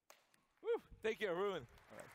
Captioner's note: applause